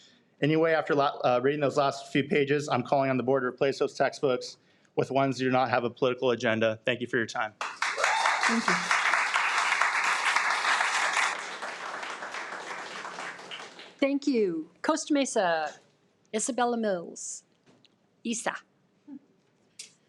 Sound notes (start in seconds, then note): 7.6 audience applauding; 7.7 audience cheering